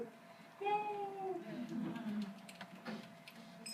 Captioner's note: group chuckles